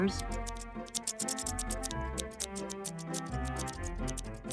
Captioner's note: snipping